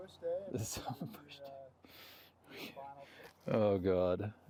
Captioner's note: laughs